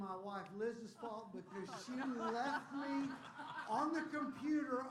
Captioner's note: laughter